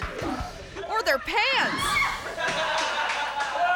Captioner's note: student screams; students laughing